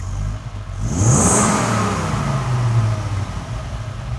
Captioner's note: car revving